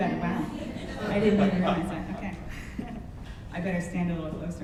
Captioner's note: audience laughs